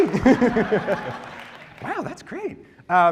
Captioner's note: laughs